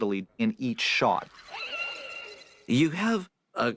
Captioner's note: screeches